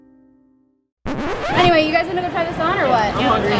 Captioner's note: record scratch